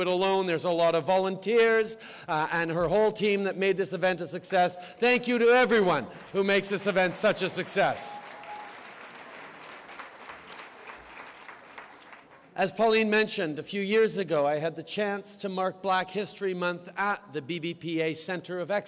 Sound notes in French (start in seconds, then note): 9.7 Applaudissements